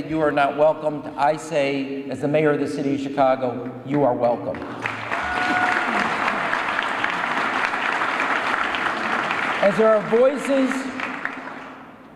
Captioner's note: applause